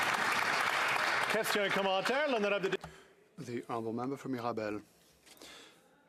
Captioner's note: applause